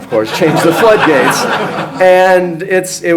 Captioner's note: audience laughs